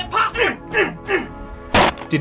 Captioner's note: grunting